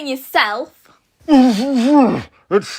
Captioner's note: grunting and huffing